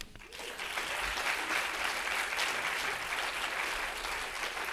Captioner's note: audience applauding